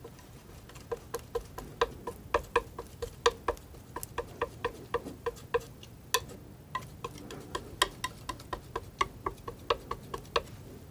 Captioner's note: tapping